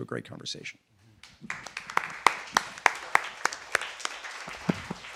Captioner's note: audience applauding